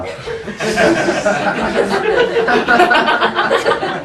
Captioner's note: laughing